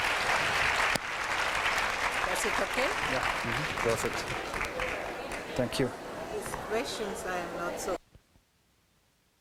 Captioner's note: applause